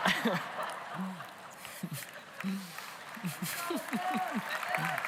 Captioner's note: congregation laughs; congregation applauds